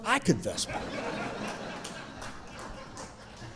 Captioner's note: audience chuckling